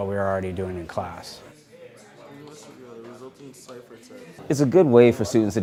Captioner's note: children talking